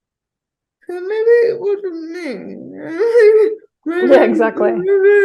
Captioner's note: chuckles sardonically